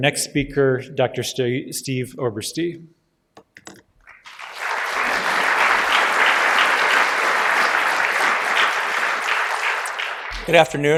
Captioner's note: applause